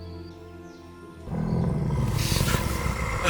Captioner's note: sounds of an orc